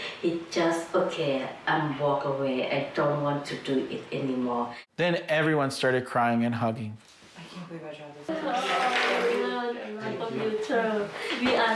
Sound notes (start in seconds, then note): 7.7 speaking in Farsi